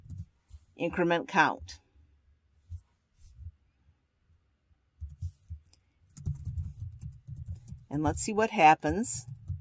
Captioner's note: pause